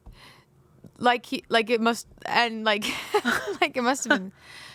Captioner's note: laughs